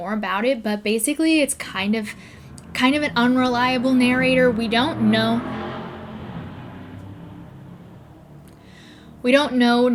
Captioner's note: car engine revs